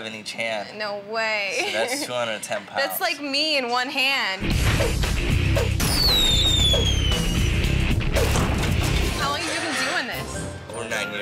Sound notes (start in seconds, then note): 4.4 metal music; 5.1 ceiling breaks